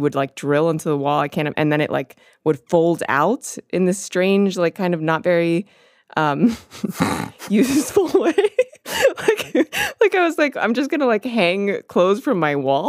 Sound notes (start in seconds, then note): 6.6 both laugh